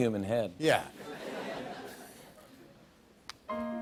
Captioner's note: light laughter; soft piano music plays